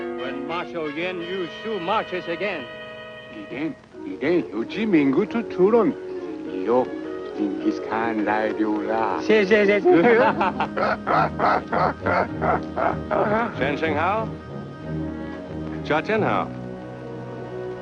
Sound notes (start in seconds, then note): 3.6 speaks foreign language; 9.6 chuckling; 13.9 speaks foreign language